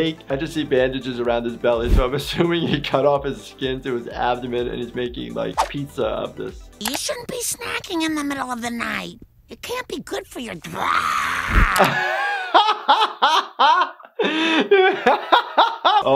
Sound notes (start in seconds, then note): 10.6 laughing; 10.6 screams